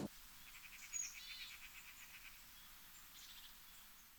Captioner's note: birds chirp